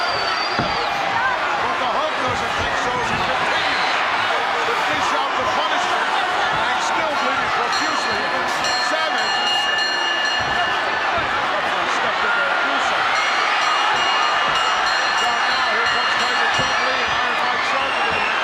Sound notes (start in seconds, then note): 9.7 audience cheering; 9.7 bell ringing